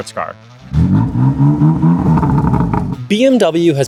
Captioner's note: engine revving